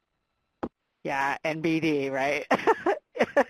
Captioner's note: laughing